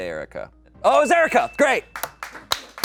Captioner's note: bell dings; audience applauding